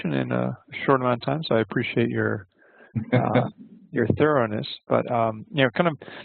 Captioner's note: laughter